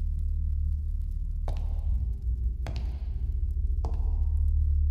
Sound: walking sound

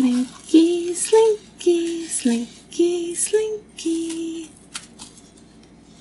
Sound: in a sing - song voice

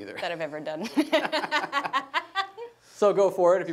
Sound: laughing

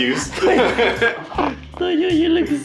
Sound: laughing

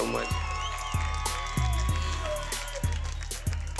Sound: crowd cheering

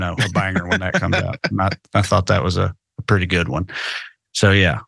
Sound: laugh

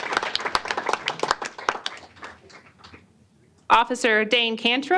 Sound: applause

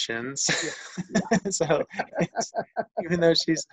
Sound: laughing

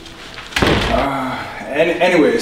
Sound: door clicks; door thuds

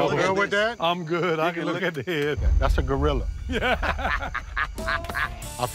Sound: all laugh

